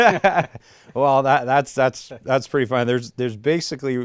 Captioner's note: laughter